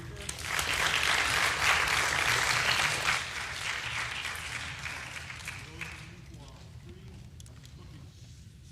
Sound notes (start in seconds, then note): 3.0 applause